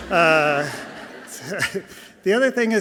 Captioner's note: audience laughing softly